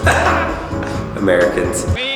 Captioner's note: laughs